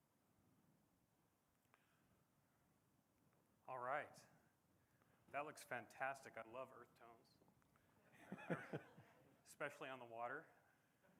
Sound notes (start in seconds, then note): 8.1 laughter